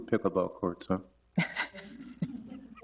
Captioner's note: laughs